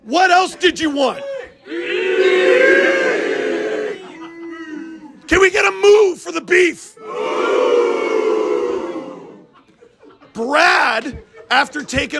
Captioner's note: crowd: MOOOO